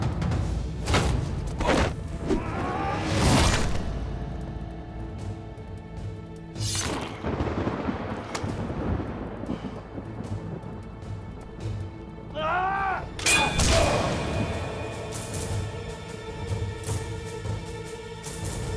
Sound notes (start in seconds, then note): 6.4 Kılıç sesi; 7.1 Gök gürültüsü efekti; 13.2 Kılıç sesi; 15.3 Müzik - Vurmalılar